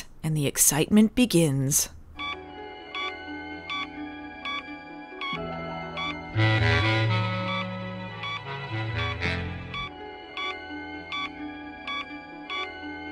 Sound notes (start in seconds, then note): 2.1 intermittent beeping